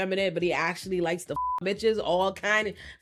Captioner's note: beep